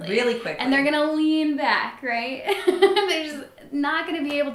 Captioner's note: laughs